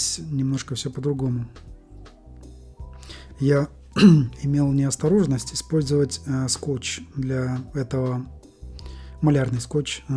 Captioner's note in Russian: откашливается